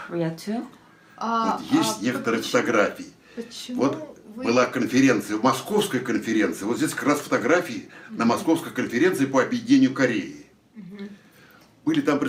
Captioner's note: foreign language